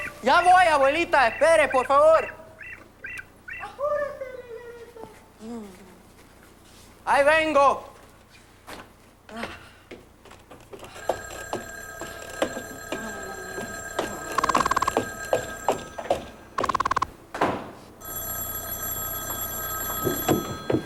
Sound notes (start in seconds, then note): 11.0 ring; 19.2 ring